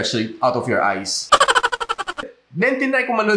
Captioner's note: laughter